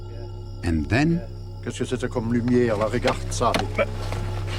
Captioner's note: non-english speech